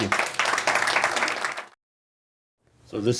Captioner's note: applause